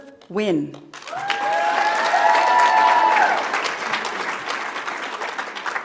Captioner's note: audience applauds